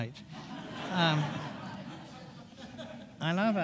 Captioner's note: audience laughing